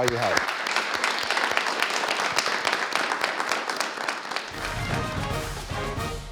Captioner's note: clapping